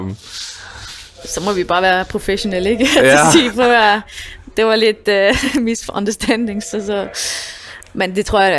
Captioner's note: laughs